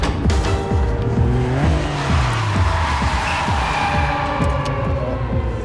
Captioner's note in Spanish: Chirrido de llantas